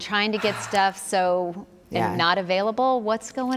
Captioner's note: sighs